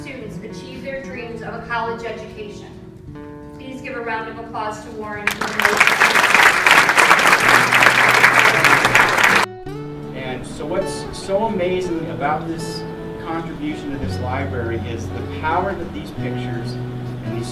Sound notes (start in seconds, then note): 5.2 applause